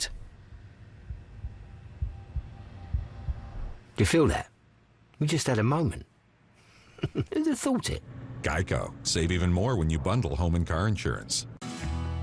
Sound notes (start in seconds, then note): 6.8 chuckles